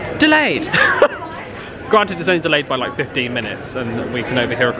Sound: laughs

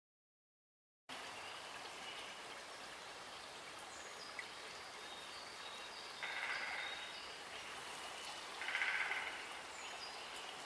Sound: sound of forest

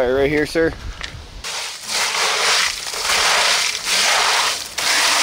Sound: gravel shuffling

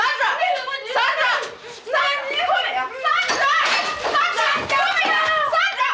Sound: Sandra shouts angrily

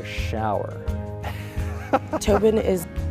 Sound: laughs

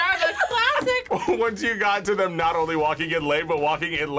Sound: laughs

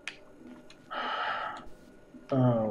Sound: sighs

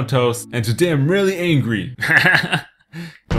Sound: laughs

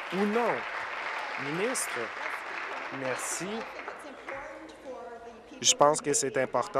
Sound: applause

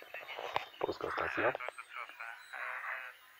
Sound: transmitting in Polish

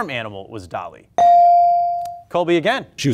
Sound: buzzer pings

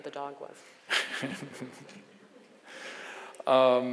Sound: laughs

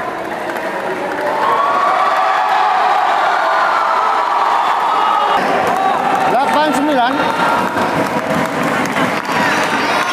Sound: applause

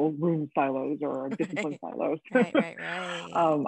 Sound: woman laughing

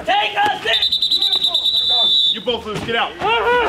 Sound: instructor whistles

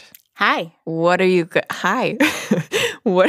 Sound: laughs

